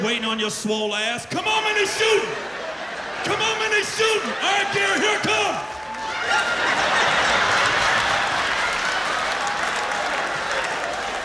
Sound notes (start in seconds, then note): 6.2 laughter